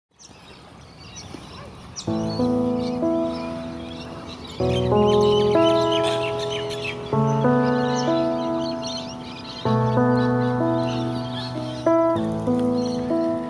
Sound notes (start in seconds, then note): 0.7 seagulls crying; 2.3 soft music